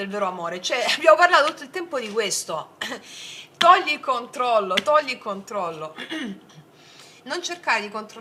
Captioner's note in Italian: tosse; schiarire la voce